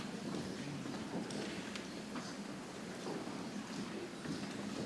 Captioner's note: people chattering softly